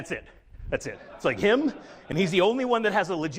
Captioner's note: audience laughs